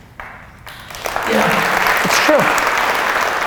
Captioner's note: applause